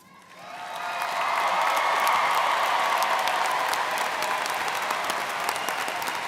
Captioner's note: students cheering and applauding